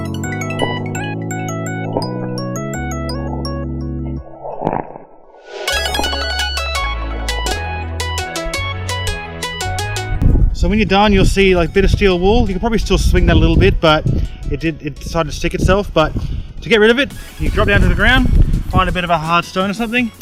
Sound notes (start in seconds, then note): 0.2 splash; 4.2 splash; 7.2 splash